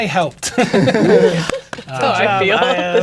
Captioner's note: players laughing